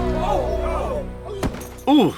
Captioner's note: thuds